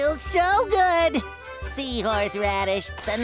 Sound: none

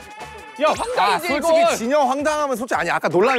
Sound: screaming to defend himself

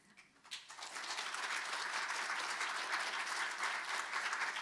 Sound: audience applauding

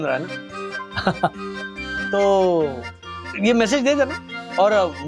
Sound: laughs

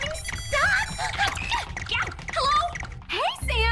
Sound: X-Powder beeping

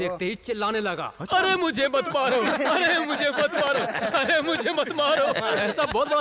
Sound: laughter

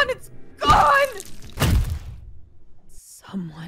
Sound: thud

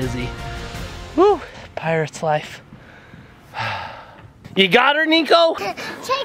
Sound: sighs

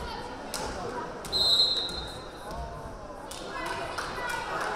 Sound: whistle blaring

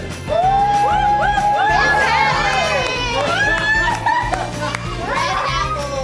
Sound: cheering and applause

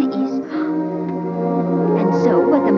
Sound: Dorothy gasps

